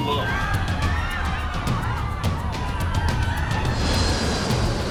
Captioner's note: passengers scream